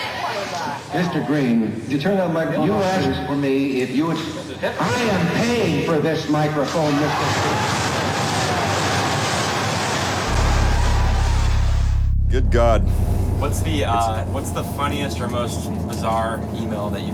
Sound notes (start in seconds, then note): 1.9 voiceover; 6.8 wild applause; 12.4 voiceover